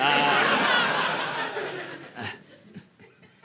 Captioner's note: audience laughing